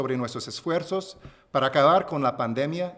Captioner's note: remarks in spanish; speaking spanish